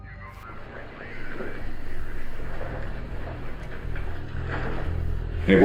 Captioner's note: police radio